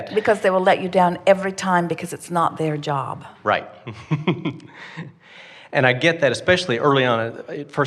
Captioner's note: laughs